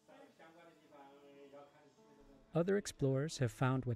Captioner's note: locals speaking in foreign language